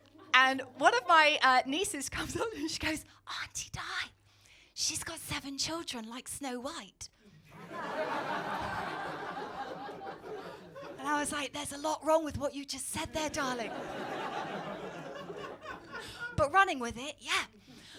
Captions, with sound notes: And one of my nieces comes up to me and she goes (whispers) "Auntie Di..." "...she's got seven children like Snow White." (audience laughing) And I was like, (whispers) there's a lot wrong with what you just said there, darling. But running with it, yeah.